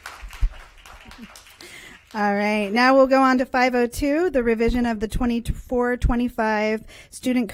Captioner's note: applause